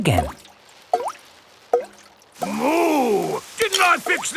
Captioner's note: water dripping